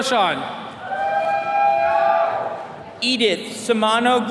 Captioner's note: attendees cheering